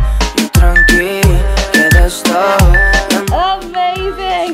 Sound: timer beeping

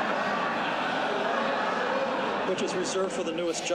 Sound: laughter

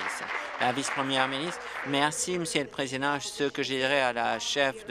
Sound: applause

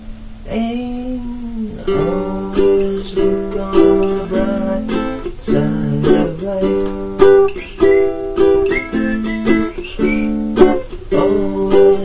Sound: whistle

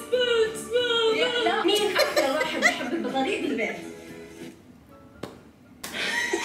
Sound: laughs

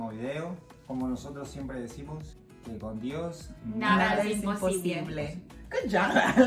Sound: together in Spanish

